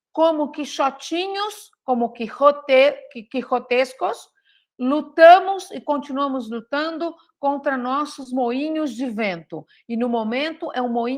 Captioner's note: speaks Portuguese